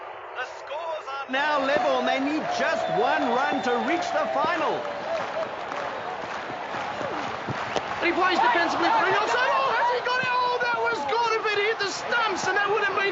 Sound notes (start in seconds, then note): 4.8 fast rhythmic clapping; 9.1 announcers shouting